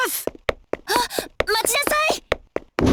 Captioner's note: gasp